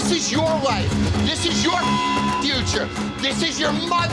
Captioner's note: beep